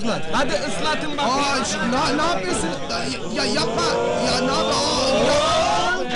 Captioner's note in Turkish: gülerler